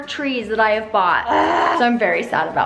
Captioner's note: groans